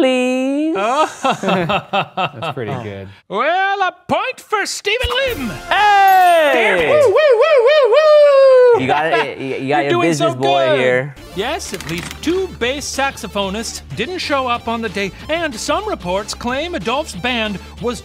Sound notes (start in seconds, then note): 0.8 laughs